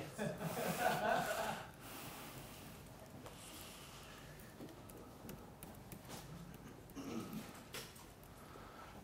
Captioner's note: laughter